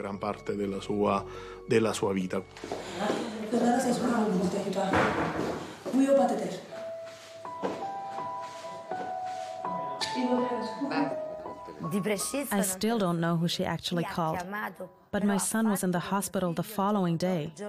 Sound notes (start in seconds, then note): 0.9 speaking in Italian